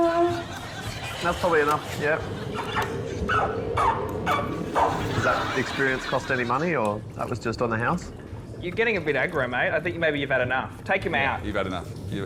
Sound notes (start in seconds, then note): 2.7 squeaks